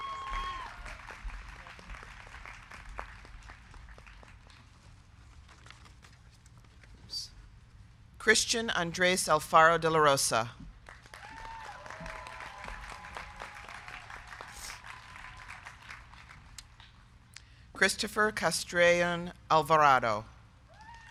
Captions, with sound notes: (crowd cheering) (crowd clapping) Christian Andres Alfaro De La Rosa. (crowd cheering) (crowd clapping) Cristopher Castrellon Alvarado.